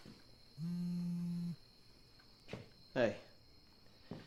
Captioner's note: phone buzzing